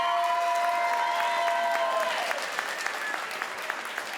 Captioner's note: crowd applauds